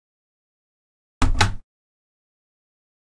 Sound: sound of cabinet door

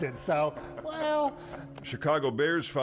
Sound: laughing

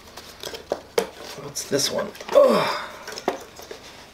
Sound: sigh

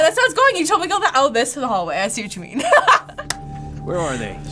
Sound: laughs

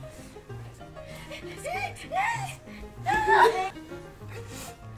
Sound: sounds of distress

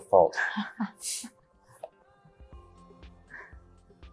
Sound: laughs

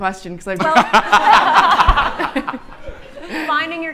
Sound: audience laughing

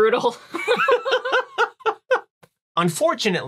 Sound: laughing

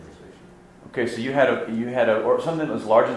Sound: voiceover

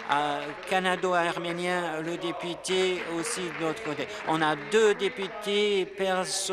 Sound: applause

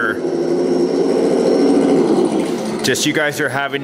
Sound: engine revving

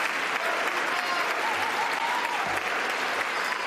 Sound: applause

